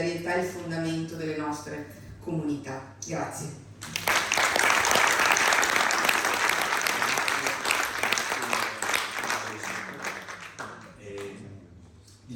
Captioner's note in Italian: Applauso